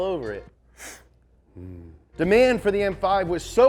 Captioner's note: sniffs